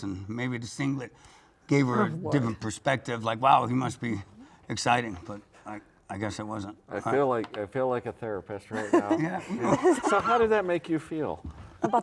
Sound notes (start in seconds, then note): 8.7 chuckles